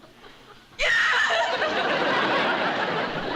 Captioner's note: sobs